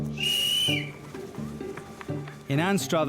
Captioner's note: whistle blowing